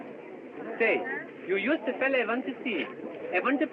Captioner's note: swedish Accent